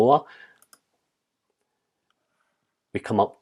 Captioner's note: keyboard clicks